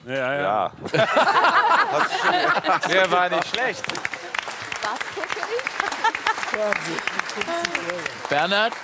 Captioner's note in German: Lachen